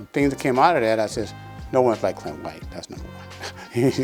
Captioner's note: chuckles